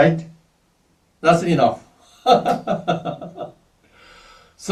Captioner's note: laughs